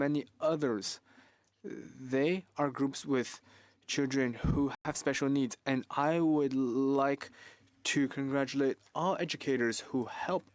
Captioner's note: speaking French